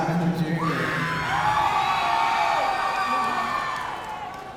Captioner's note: audience cheering